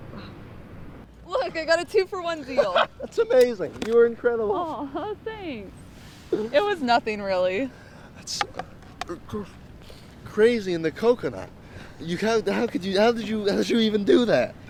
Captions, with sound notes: Wow. -Look, I got a two-for-one deal! -[laughs] That's amazing! -You were incredible! -Aw, thanks! It was nothing, really. That's-- it's just-- Crazy in the coconut! You ha-- how could you-- how did you-- how did you even do that?